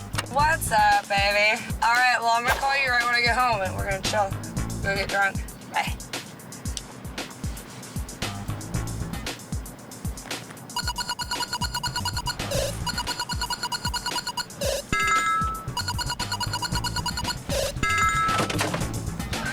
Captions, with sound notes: What's up, baby? All right, well I'm gonna call you right when I get home and we're gonna chill and go great drunk, bye. (energetic music) (video game beeping)